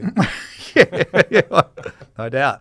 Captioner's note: both laughing